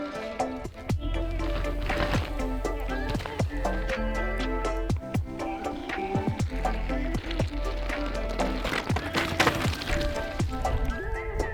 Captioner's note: SPECTATORS: Wooah!; bike tires on slate trail